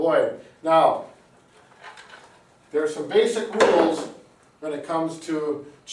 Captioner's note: spine model thuds